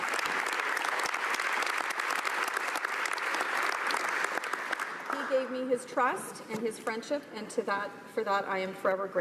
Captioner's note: applause